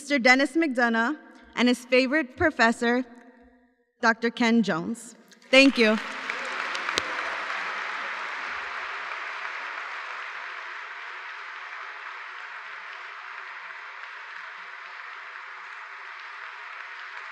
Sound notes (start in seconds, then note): 10.9 applause